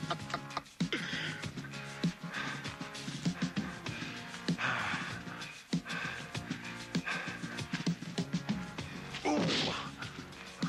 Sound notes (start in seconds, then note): 0.0 laughing; 3.8 dramatic music; 3.8 fists thudding